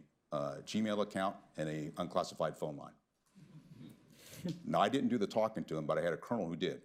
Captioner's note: laughter